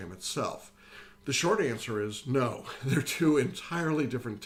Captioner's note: laughs